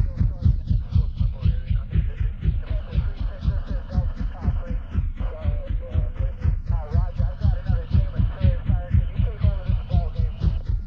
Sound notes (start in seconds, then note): 2.0 helicopter blades whirring